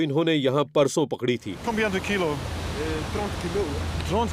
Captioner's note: speaks foreign language